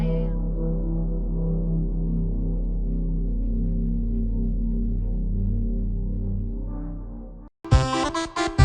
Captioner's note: ominous Hum